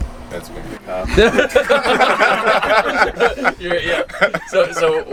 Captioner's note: laughing